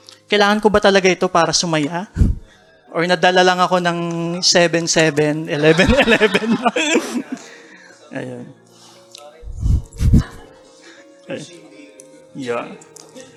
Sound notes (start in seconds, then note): 5.5 laughter